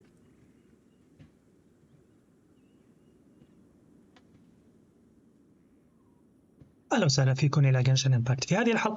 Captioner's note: birds chirping